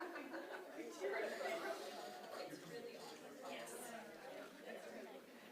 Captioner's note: indistinctive chattering